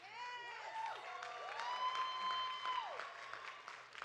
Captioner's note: audience cheering